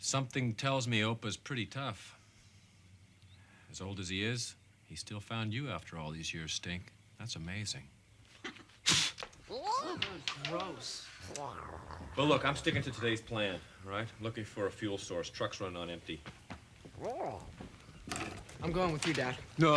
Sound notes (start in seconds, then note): 8.4 Opah spits; 9.5 Tasha grumbles